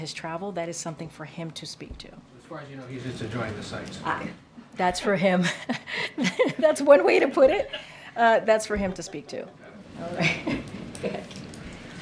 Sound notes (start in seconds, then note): 5.4 laughter; 6.3 laughs